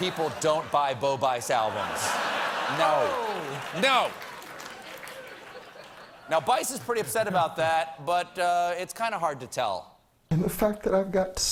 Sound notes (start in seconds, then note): 4.7 laughter